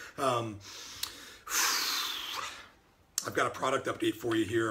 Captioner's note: sighs